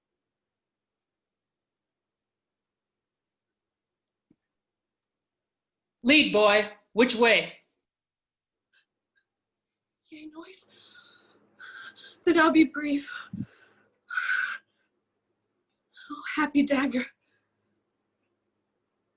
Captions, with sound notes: [Watchman speaking]: Lead, boy: which way? yea noise, then I'll be brief oh happy dagger